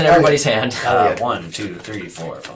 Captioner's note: counting